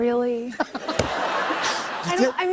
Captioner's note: laughter